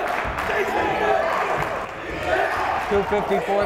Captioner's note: yelling